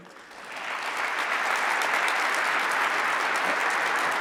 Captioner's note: audience applauding